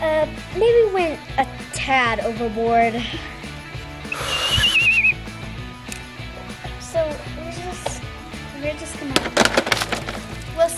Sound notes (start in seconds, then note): 4.1 whistle blows; 9.1 toys clatter